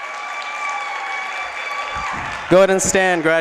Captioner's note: applause